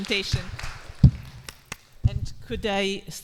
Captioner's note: clapping